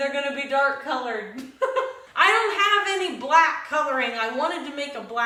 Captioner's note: laughs